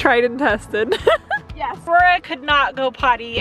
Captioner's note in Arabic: يضحك